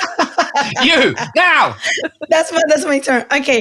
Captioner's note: laughing